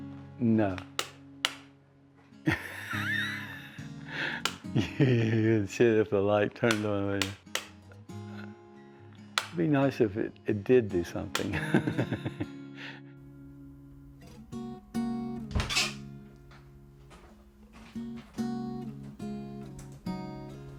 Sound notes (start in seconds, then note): 2.4 laughs; 11.5 laughs; 15.4 sound of door opening